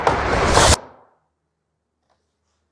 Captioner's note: silence